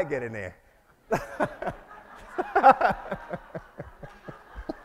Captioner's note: all laugh